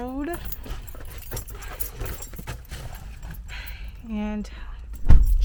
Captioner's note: keys jingling